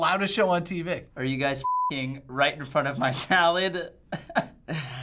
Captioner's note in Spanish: pitido; risas